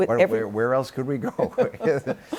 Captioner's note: chuckles